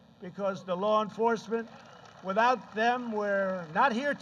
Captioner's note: applause